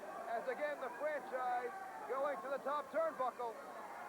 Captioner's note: crowd chatter